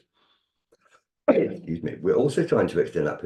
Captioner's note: coughs